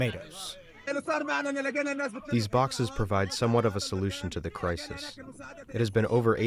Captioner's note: through translator